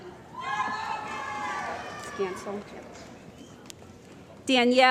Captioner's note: cheering